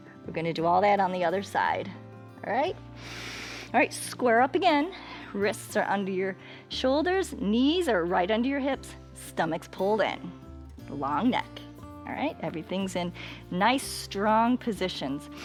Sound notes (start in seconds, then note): 2.9 inhales